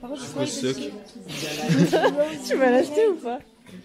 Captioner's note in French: rire